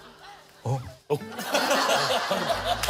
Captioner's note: sobbing